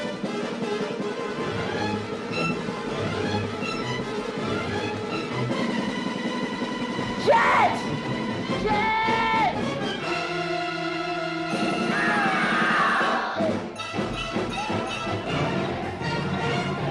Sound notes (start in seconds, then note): 0.0 tense music continues; 10.0 tense orchestral music; 11.9 boys screaming